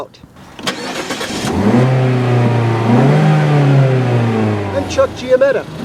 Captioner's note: engine start